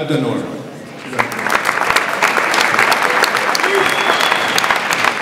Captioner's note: audience applauds